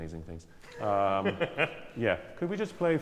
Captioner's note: laughter